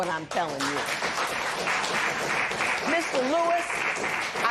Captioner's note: applause